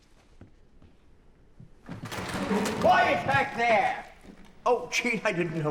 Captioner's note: theater door opening loudly